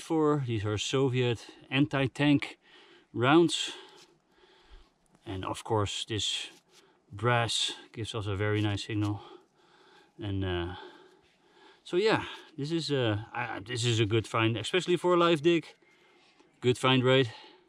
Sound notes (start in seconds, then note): none